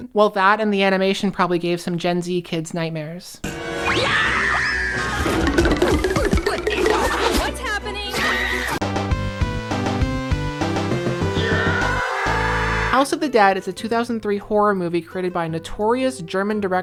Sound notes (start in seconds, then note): 7.5 VERY LOUD cartoon sounds effect